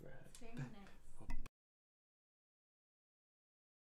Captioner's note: laughing